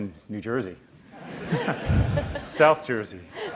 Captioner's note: audience laughs